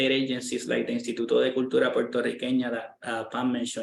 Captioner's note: speaking in foreign language